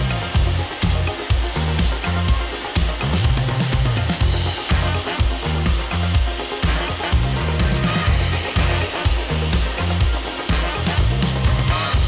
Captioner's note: more table saw cutting noises